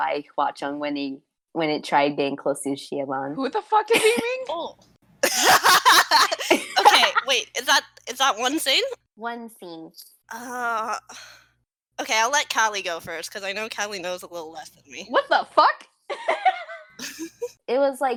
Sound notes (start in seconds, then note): 5.2 laughing